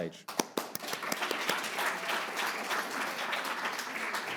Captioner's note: audience applauds